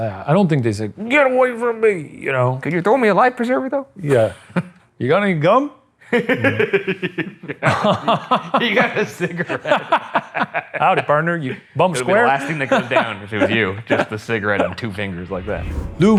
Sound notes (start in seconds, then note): 6.1 both laughing